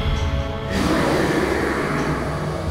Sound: roaring

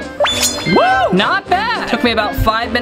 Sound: snipping

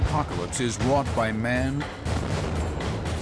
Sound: explosion

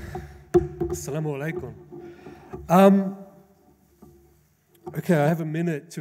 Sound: speaks in foreign language

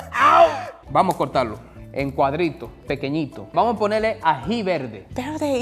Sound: speaking in foreign language

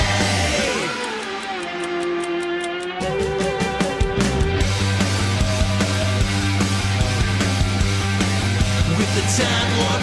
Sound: clock ticking

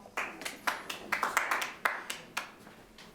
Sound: clapping

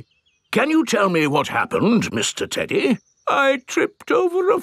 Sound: in teddy's voice; in normal voice; in teddy's voice

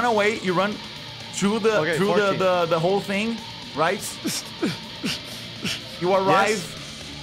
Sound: panting

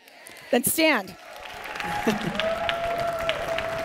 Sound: applause

